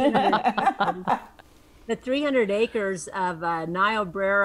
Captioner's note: group laughs